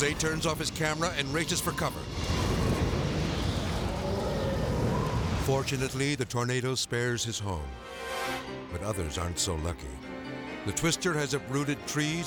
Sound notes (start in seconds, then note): 1.9 wind whooshing